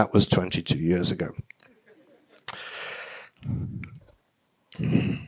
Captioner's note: audience laughing